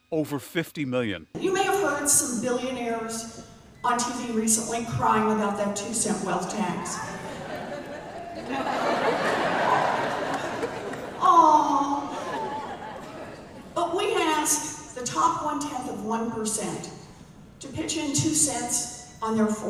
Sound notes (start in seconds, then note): 11.8 laughter